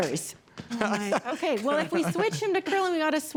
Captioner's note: laughs